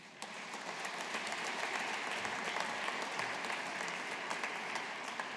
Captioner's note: audience applauding